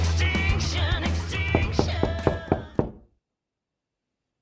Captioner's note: knocks on door